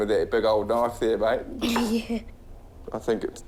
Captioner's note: chuckles